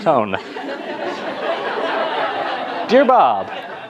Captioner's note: laughter